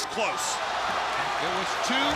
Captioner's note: crowd cheering